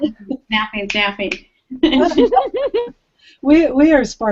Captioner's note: giggling